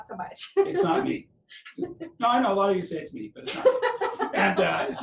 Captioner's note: laughing